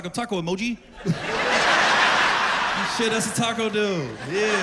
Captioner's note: laughter